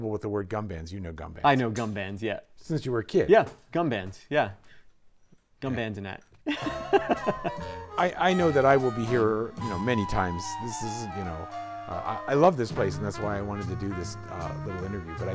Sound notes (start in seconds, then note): 6.4 laughs